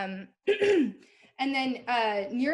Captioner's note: clears throat